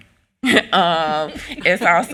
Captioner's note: all laughing